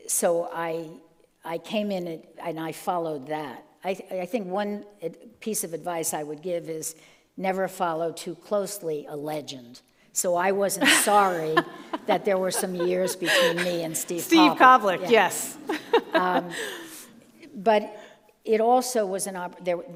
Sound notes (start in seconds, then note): 17.0 laughs